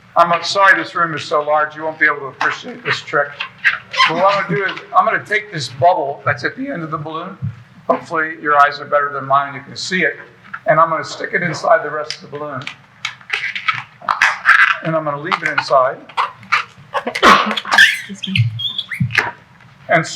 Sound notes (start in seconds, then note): 13.3 balloon squeaking; 17.1 sneezing; 17.7 air squeaking